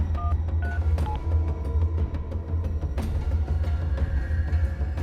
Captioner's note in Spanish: Sonido al marcar el celular